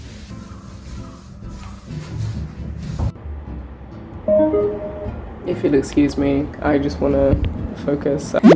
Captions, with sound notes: *speaker turning on* If you'll excuse me, I just wanna focus